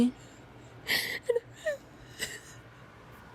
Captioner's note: sobs